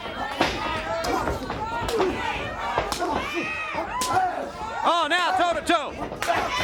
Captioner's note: crowd chatter